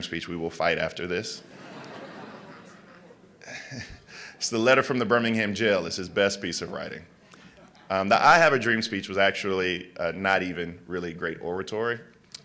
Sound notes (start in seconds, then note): 1.4 laughter